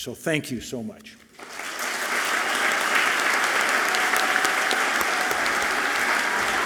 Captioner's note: audience clapping and cheering loudly